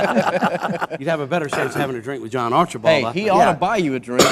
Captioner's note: laughing